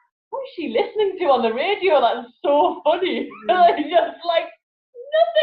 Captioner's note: laughs